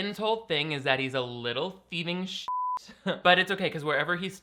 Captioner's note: beep